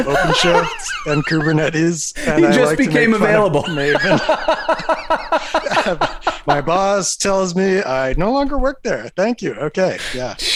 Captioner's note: laughter